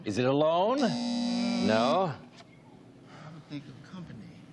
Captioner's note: buzzer